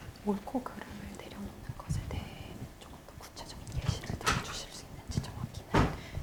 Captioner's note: interpreter whispering Korean